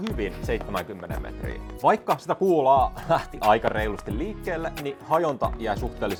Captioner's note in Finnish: naurua